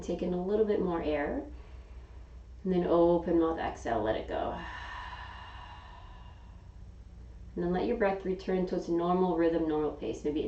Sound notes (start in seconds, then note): 4.5 exhaling